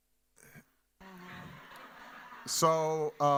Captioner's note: audience laughing